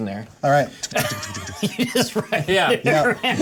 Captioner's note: laughter